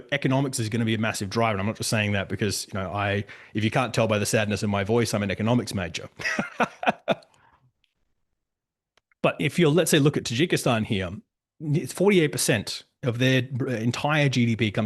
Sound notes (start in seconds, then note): 6.2 laughs